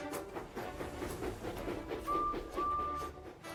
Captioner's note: edward whistles